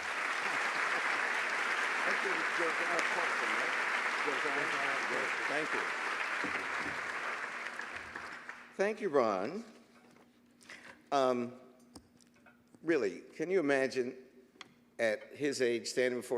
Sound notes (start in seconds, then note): 0.0 applause